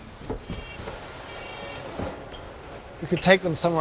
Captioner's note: doors whooshing